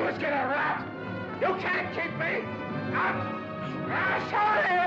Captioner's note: Eddie cries out